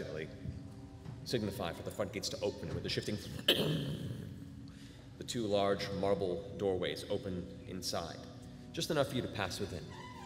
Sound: thudding

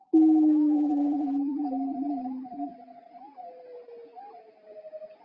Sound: lower pitched groans

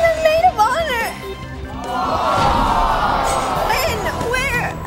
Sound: audience screaming

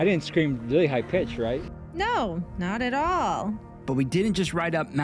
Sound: sarcasm

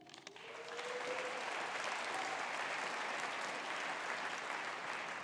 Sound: audience applauding

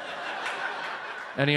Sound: audience laughs

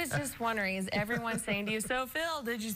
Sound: laughter

